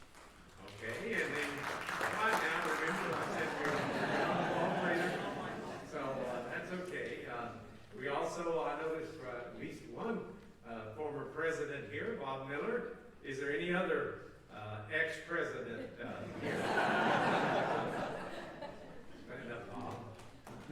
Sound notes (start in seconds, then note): 0.0 applause; 15.7 laughter